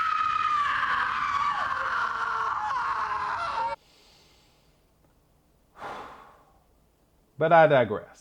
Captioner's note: deep, Frightening, Howling Scream